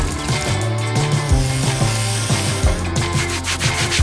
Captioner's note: water pattering; aerosol can hissing; cloth rustling